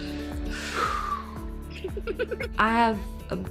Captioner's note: collective sigh